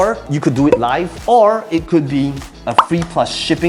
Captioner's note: bubble popping